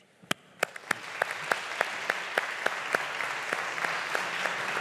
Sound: audience applauding

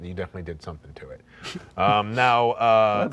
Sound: laughing

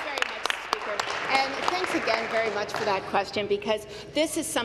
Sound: applause

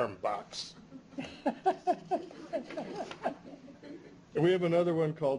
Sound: chuckles

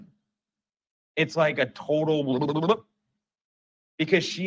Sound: head shake and sound, reprocessing

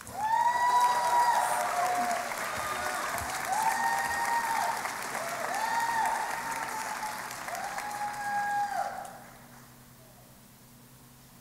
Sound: applause and Cheering

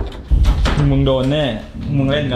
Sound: pat

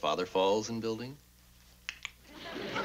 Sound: clicks mouth

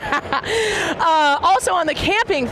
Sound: laughing

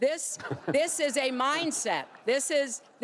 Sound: laughter

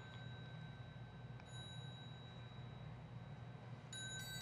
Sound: bell chiming

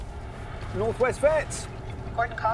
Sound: english accent

